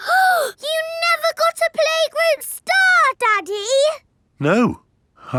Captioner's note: gasps